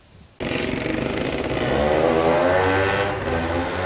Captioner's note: 2-Stroke sounds